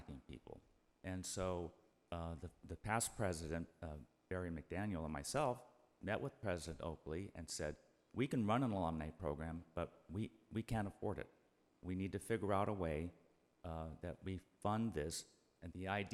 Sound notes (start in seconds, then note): none